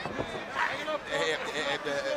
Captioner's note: crowd chatter